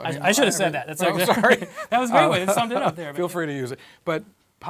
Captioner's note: laugh